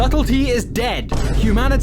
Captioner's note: boom